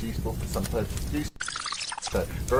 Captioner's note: tape squealing